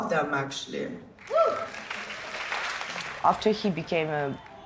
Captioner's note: applause